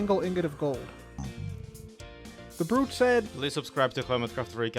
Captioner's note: Piglin snorting